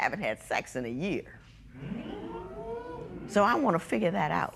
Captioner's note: spectators murmur